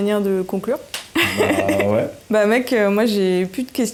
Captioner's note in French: Rires